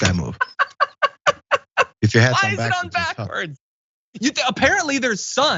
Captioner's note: laugh